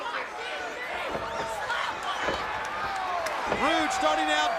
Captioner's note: crowd chatter